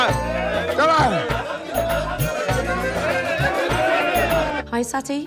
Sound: crowd cheering

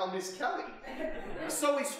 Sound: audience laughing

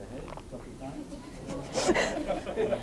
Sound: audience laughing

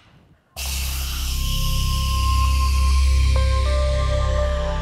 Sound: steam releasing

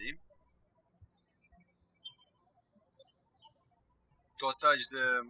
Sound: birds chirping

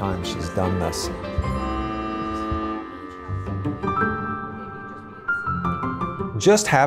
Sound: bright music; scanner blips

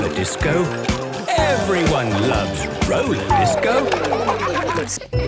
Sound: laughter

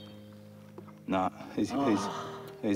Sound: groans

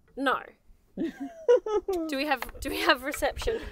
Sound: laughing

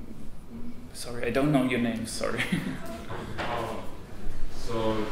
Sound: chuckles nervously

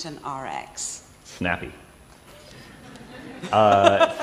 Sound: laughter

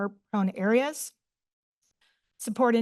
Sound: pause

